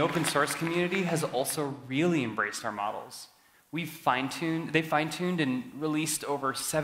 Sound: cheering

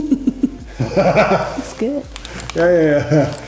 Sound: laughs

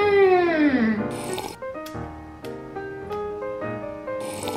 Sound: sipping

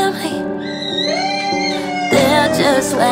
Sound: screams

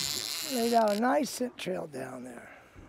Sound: reel spinning

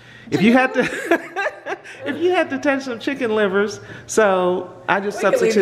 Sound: laughing

